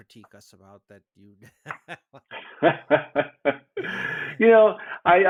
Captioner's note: laughing